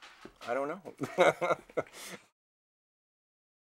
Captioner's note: chuckles